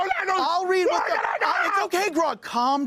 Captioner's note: panicked yelling